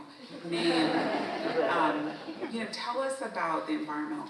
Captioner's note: audience laughs